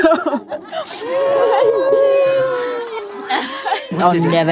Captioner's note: sobbing